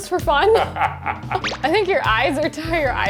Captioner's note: laughing